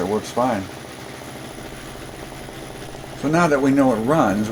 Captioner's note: engine running sounds